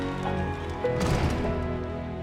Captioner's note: door slams